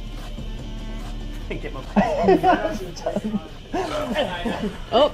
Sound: nervous laughter

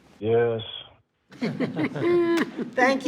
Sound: trustees laugh

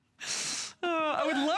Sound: laughter

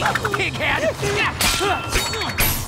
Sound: grunting

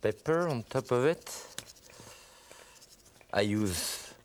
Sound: salt sprinkling

